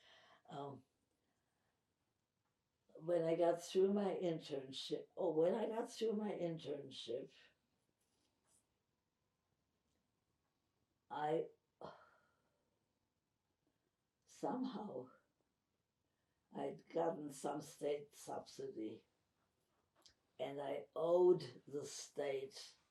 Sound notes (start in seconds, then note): 7.5 pauses 6 seconds